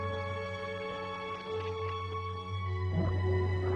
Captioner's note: applause